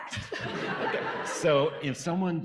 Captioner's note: audience laughing